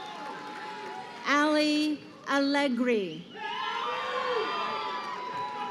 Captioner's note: crowd cheering; crowd cheering